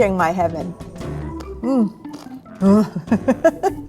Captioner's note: laughs